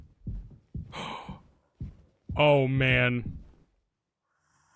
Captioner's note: gasps